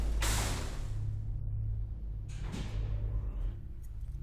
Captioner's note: elevator door rattles